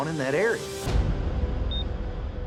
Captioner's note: beeps